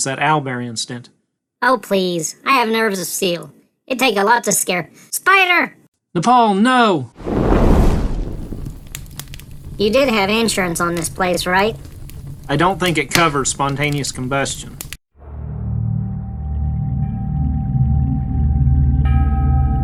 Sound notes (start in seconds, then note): 7.2 whoosh